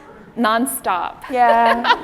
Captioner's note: laughs